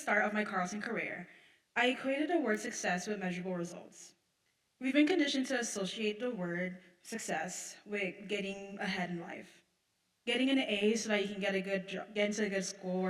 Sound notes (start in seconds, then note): none